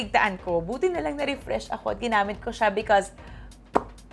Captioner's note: mouth pop